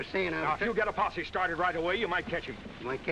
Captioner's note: none